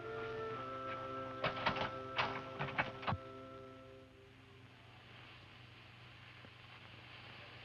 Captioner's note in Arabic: صوت الباب; طقطقة مقبض الباب